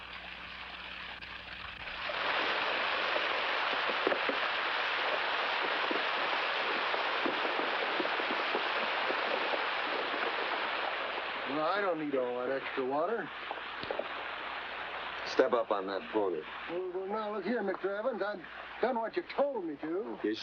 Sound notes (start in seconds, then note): 2.1 water rushing